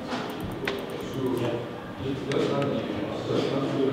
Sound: knob rotating

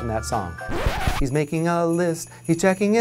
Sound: record skips

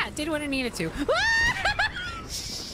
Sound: screaming

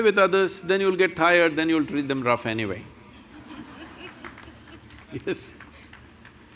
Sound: laughter

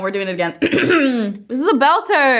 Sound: clears throat

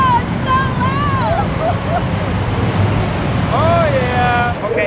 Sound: laughs

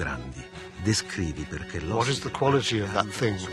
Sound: speaking Italian

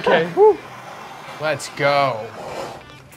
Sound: fire torch hissing

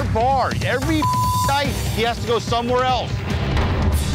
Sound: beeping

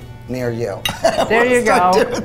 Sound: chuckles

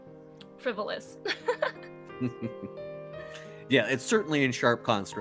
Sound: chuckling

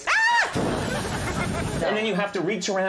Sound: Conan imitating flames hissing

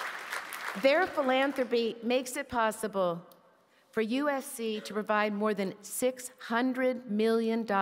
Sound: applause

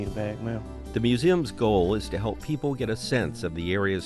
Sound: voiceover

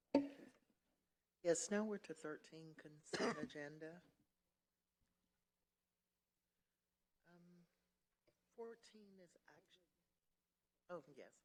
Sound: cough

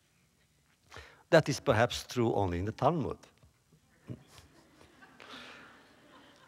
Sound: laughter

